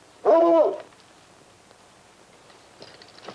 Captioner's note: dog barking